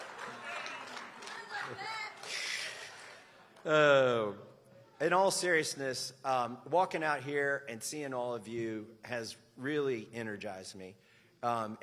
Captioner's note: laughter